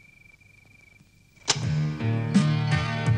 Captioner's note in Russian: Звук: включения магнитофона